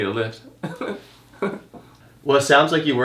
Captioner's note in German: lacht